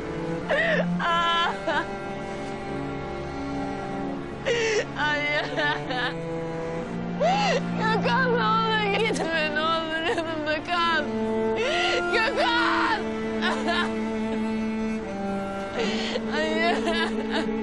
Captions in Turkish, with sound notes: Hayır! (Haykırır ve ağlar) Gökhan, ne olur gitme ne olur! Yanımda kal. Gökhan! (haykırır ve ağlar)H Hayır!